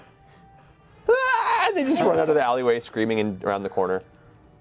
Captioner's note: screams